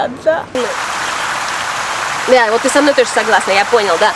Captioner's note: bird sound